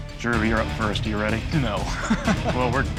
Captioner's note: laughs